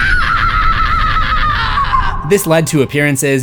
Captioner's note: screams